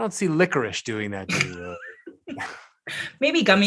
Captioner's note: chuckles